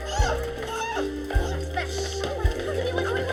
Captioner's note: students scuffling